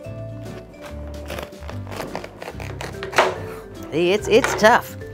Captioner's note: cabbage crunching